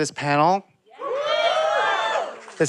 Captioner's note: audience cheering